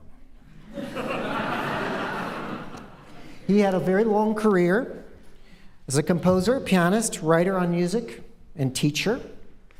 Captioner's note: laughter